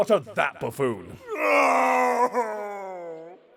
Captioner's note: wailing